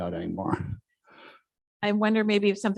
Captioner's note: chuckles